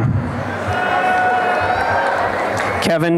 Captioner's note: applause and cheering